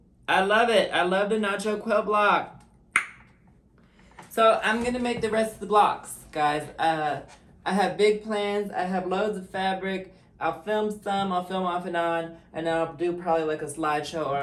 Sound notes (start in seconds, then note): 2.9 tongue pop